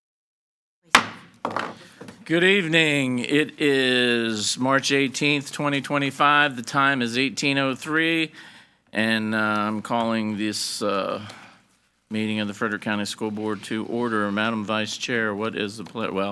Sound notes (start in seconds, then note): 0.9 gavel thudding